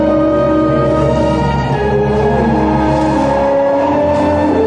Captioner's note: wind whistling